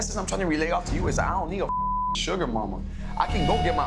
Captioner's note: beep